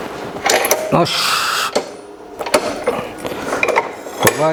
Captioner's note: snorts